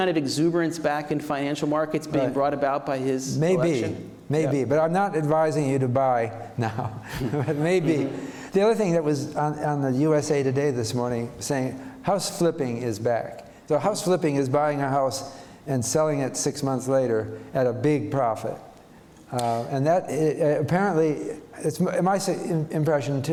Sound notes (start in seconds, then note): 6.6 chuckles